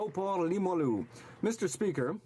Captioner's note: some Applause